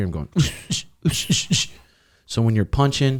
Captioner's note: forceful exhaling